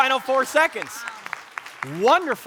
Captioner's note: audience applauding